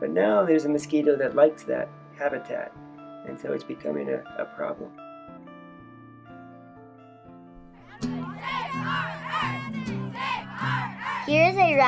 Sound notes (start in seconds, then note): 4.9 slow dramatic music; 7.8 protesters chanting